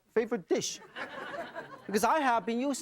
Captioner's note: audience laughing